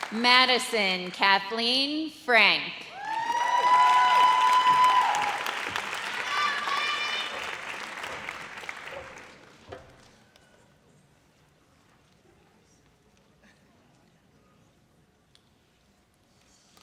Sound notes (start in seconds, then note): 2.9 audience cheers